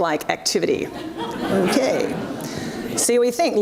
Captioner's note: audience laughs